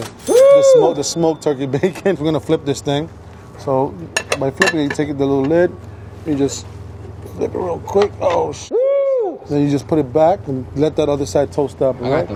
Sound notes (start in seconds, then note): 0.0 dings; 0.3 cheers; 8.8 cheers